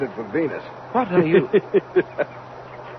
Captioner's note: only russell laughs